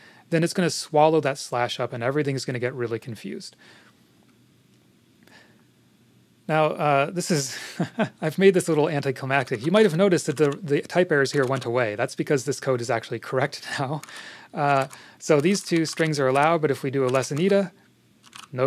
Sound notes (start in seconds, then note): 7.6 laughs